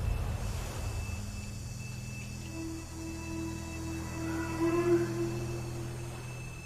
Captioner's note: buzzing